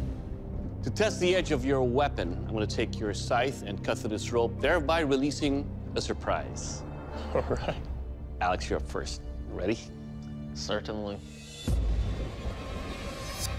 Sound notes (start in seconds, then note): 7.1 laughing